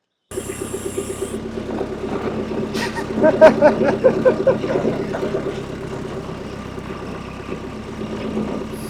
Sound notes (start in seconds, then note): 1.1 machine humming; 2.7 laughing